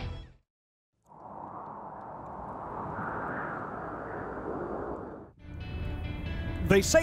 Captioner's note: wind